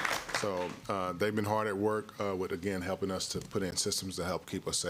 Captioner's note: applause